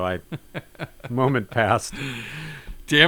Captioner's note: laughs